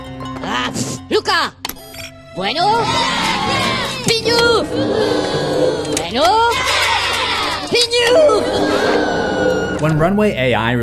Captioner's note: Minions Talking